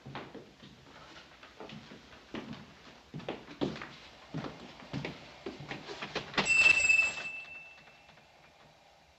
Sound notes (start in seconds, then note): 6.4 door bells chiming